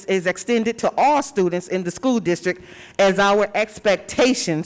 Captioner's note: none